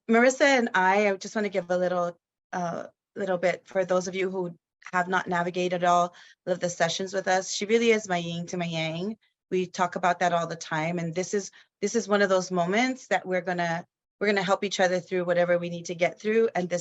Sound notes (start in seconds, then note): none